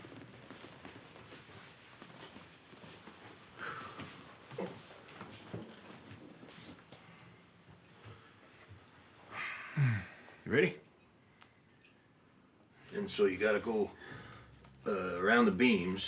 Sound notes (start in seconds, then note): 3.8 Isaac exhales sharply; 9.3 Abe sighs; 9.7 Isaac groans